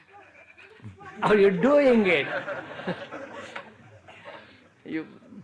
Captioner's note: laughter